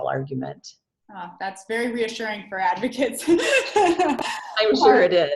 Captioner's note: laughs